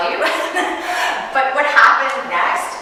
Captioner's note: chuckling